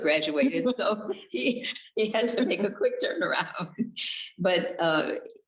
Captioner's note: both chuckles; giggles